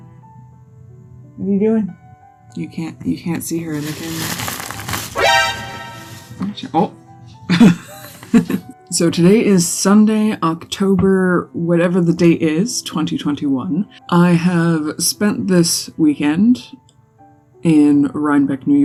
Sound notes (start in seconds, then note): 5.2 Metal Gear alert sound